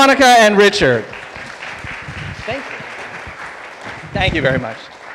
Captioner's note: audience applauding